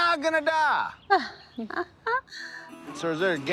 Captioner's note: group laughing